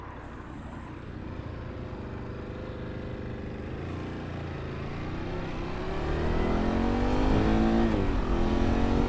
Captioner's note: engine revving